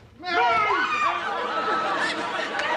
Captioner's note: squeals